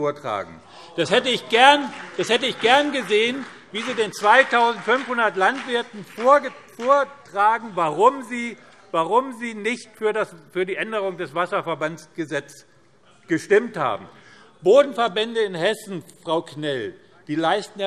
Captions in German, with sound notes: vollmundig bekunden. [Beifall BÜNDNIS 90/DIE GRÜNEN - Zurufe Freie Demokraten] Ich hätte gerne erlebt, wie Sie den 2.500 Landwirten erklären, warum Sie nicht für die Änderung des Wasserverbandsgesetzes gestimmt haben. Frau Knell, die Wasser- und Bodenverbände in Hessen leisten